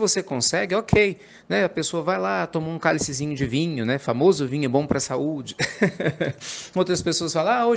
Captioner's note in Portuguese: risadas